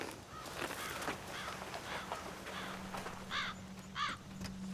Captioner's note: crow cawing